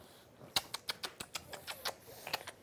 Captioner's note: kissing sounds